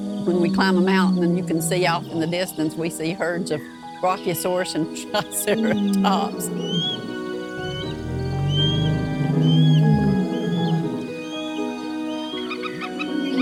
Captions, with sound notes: When we climb a mountain and you can see off in the distance we see herds of Brachiosaurus and Triceratops. (gentle music) (dinosaurs roaring)